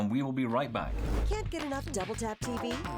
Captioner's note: air whooshes